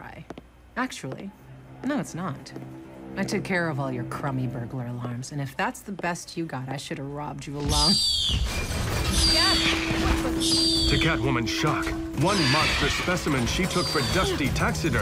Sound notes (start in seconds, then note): 7.2 bird shrieks; 8.6 crash